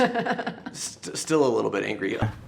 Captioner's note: laughs